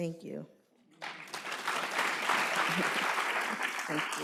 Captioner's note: applause